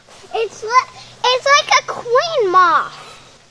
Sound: voiceover; voiceover

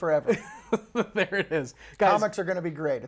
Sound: laughs

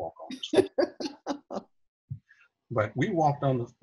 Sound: laughing

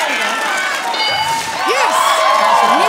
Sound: bell dings

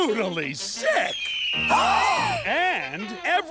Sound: gasping

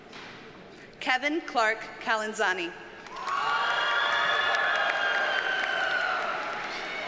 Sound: audience cheers and applauds

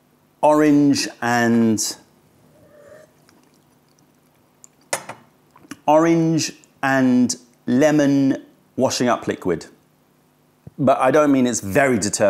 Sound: sips tea

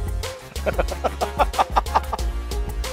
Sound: laughter

